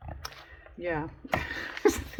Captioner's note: laughs